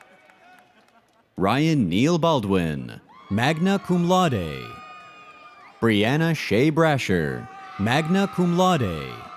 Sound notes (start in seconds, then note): 4.9 audience cheers